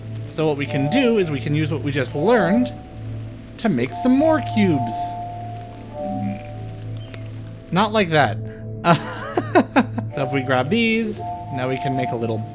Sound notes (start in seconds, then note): 8.8 laughter